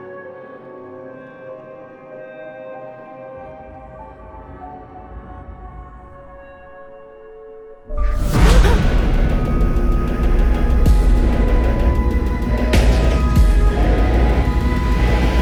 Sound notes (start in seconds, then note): 9.4 gasping; 9.4 intense music